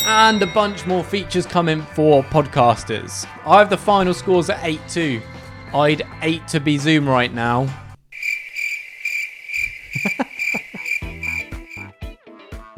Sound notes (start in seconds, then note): 8.1 crickets croaking; 9.7 chuckles; 12.5 upbeat music